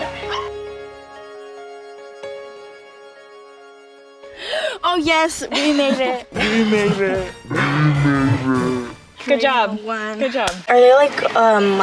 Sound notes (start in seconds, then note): 0.0 piano music; 6.6 slowed-down words repeat